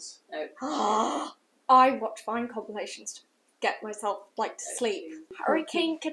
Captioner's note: gasp